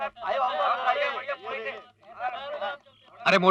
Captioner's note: none